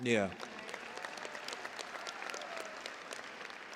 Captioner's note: cheers and applause